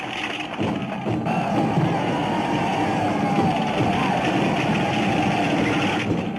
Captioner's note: advancing army whooping